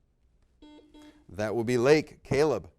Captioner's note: buzzer beeping